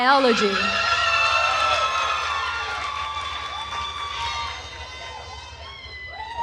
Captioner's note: attendees cheering and applauding